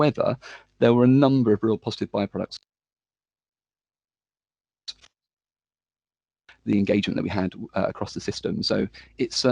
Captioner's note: sound breaks